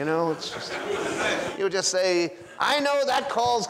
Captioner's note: audience laughs